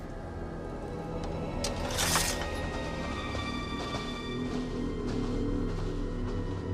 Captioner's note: ominous music; swords scraping